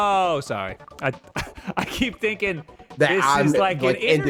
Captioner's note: laughs